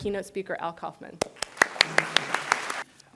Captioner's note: applause